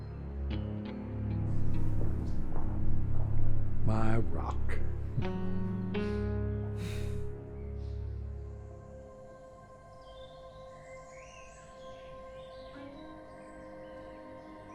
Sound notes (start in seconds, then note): 9.8 birds chirping